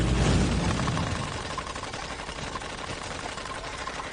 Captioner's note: explosion booming; prop gun rattling